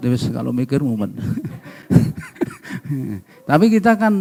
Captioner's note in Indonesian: tertawa